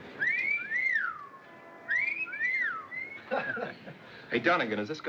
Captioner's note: wolf Whistles